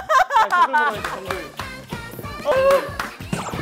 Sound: laughing

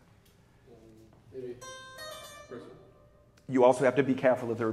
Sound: speaks faintly

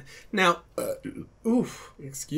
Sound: burps

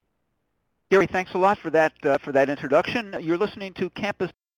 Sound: voiceover

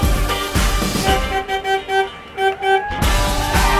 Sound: car honks; upbeat dance music continues

